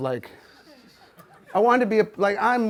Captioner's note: audience laughs